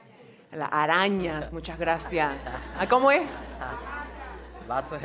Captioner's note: speaking in foreign language